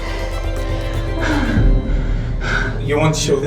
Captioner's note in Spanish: jadeando